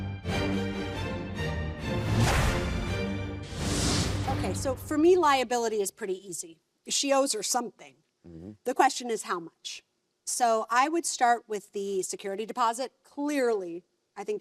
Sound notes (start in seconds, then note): 0.0 dramatic music; 1.9 logo whooshes